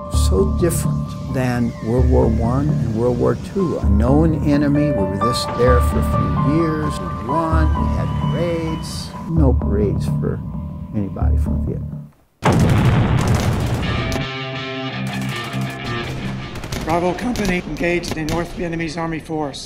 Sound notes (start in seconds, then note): 12.4 bombs exploding, gun fire; 13.5 heavy music